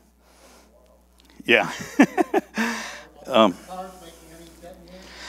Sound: laughs

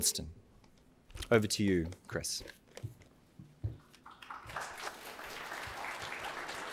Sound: audience applauds

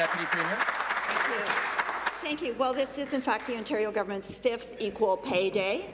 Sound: applause

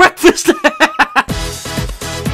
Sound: laughs

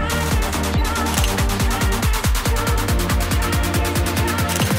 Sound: slow upbeat music; camera beeps and clicks

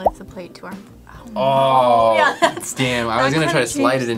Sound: laughs

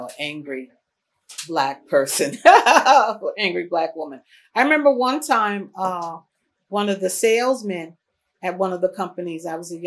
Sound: laughs

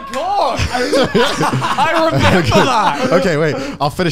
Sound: laughing loudly

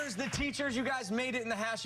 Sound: cheers and applause

